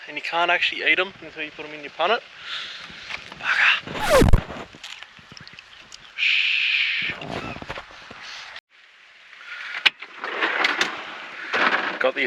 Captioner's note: rewind sound